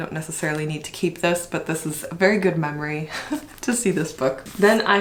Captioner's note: laughs